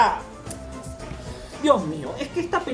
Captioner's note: takes a breath